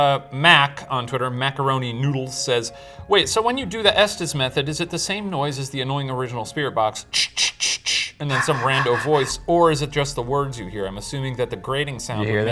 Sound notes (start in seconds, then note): 8.3 sighs